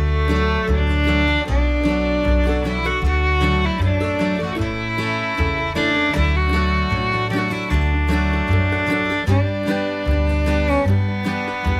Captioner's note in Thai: ปรบมือ